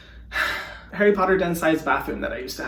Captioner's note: sighing